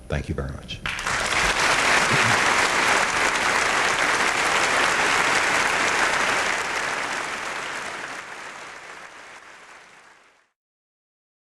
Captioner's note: applause